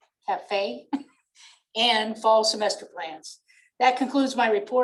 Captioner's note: laughter